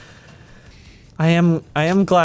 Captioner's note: sighs